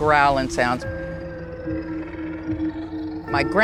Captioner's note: haunting music; animal growling